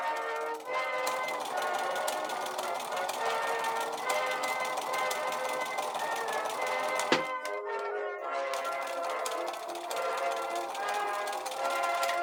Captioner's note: machine whirring